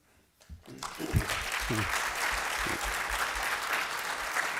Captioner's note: applause